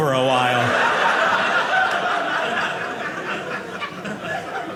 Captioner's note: audience laughing